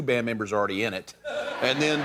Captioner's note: laughter